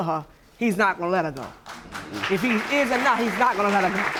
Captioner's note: audience applauding